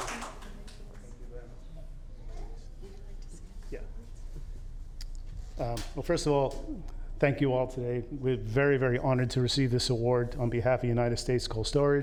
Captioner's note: applause